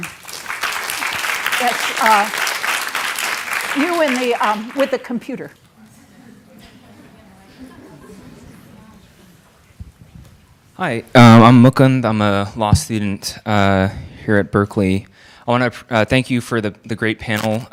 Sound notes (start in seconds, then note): 0.0 audience applauding; 5.5 audience murmuring